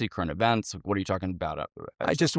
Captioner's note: stutters